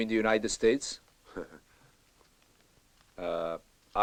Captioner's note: chuckles